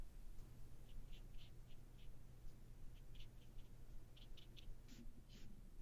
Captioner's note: short light strokes with some tapping